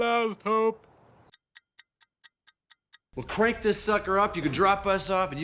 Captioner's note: ticking clock